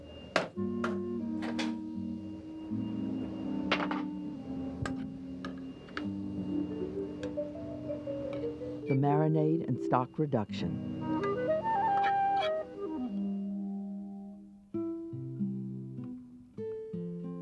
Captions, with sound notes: - [Voiceover] The marinade and stock reduction. (gentle music)